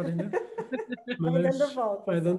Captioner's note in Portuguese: risos